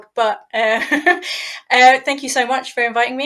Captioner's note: laughs